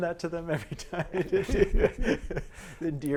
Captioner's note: laughter